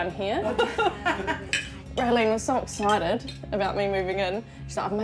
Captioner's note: laughter